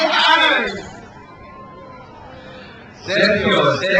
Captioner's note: crowd cheers